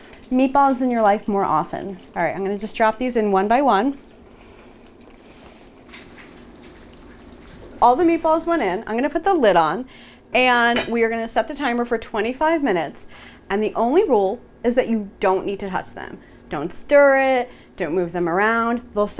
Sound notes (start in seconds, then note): 4.1 food sizzling